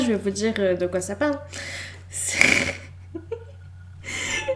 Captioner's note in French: glousse